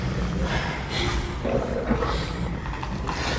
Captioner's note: creature growls